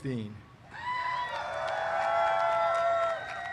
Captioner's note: cheers